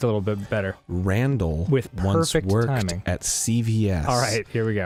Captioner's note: low Voice